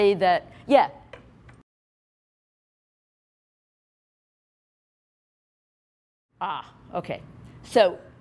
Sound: silence

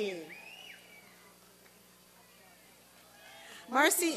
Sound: applause and cheering

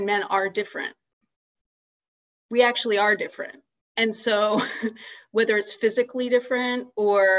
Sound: laughs

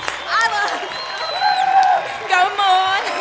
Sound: applause

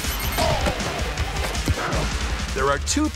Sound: Bowser yells

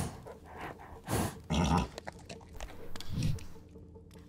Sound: whinny

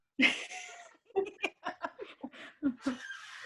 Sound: laughs

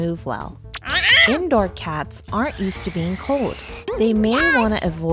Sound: crying

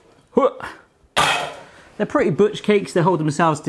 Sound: tin clatters

